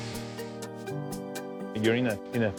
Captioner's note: drill whirring-music